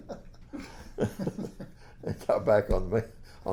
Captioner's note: laughs